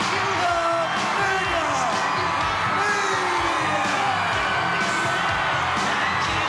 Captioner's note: crowd cheers